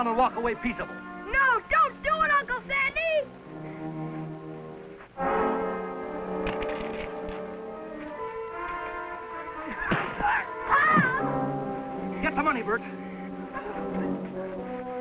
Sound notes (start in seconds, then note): 5.4 dramatic music; 9.9 fist thuds